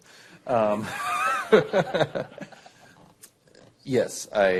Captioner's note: laughter